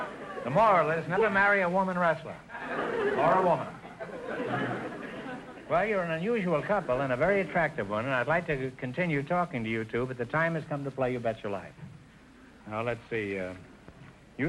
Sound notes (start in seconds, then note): 2.5 audience chuckling